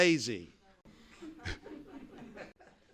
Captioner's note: laughter